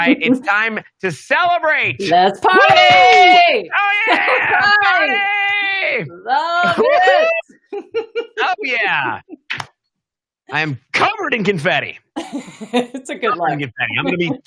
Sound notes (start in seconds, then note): 4.0 both cheering; 12.2 laughs